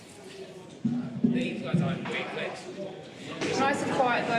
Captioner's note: chattering